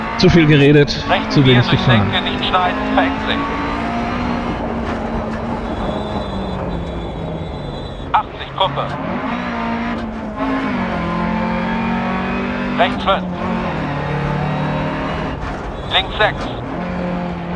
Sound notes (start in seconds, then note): 3.3 engine noises and instructions from the co-pilot